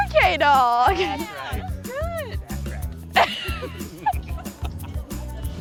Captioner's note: laughter